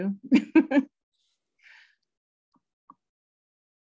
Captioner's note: chuckling